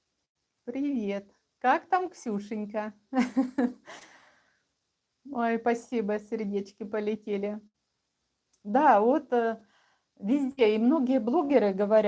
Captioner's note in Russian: смех